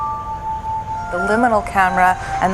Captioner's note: truck slowly moving